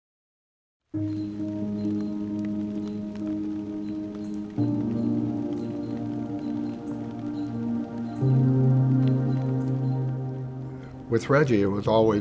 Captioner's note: rain drops, birds chirping